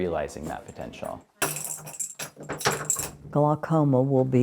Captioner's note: keys jingling